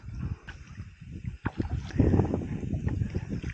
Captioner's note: paddling sound & wind